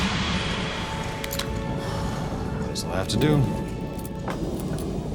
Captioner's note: sighs